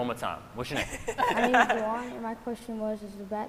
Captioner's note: scientists laughing